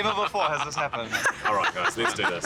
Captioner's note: laughing